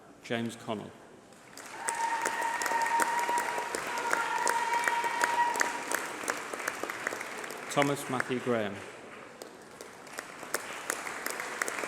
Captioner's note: applause